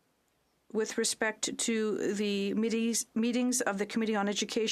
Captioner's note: speaking French